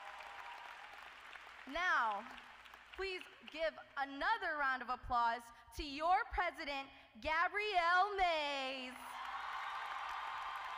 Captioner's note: applause